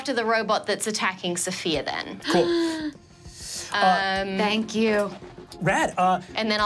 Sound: gasps

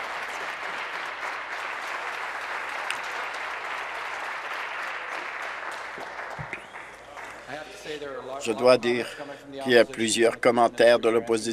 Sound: some Applause

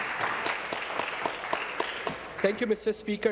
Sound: applause

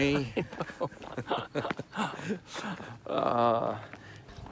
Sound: both laughing

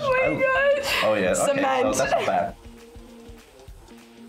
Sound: laughs

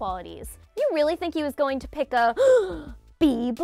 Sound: gasps

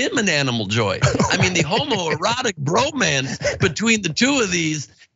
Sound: laugh

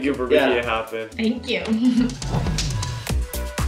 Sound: chuckles softly; upbeat music continues

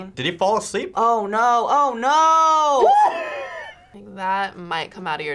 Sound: laughs

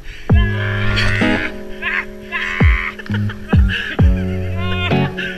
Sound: shouts of cold shock!

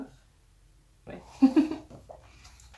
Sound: laugh

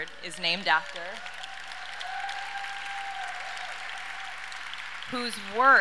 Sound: audience cheers and applauds

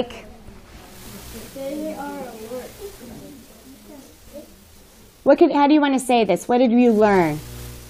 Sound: students murmuring

